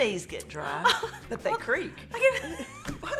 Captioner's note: continues laughing